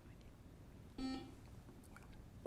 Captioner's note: buzzer chimes